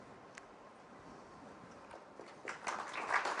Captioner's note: applause